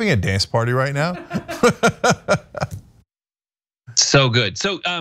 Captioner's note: laugh